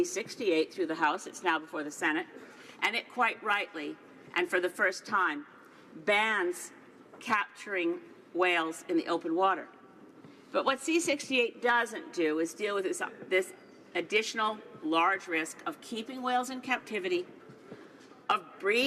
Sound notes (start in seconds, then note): none